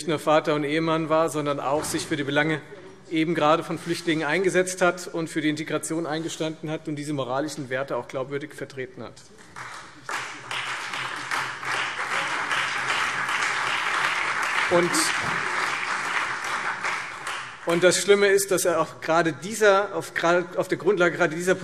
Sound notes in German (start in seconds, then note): 9.4 Beifall Freie Demokraten, vereinzelt CDU, BÜNDNIS 90/DIE GRÜNEN und SPD